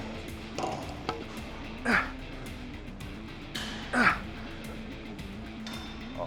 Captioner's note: upbeat rock music continues; Ethan grunting